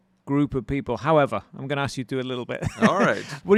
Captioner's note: laughs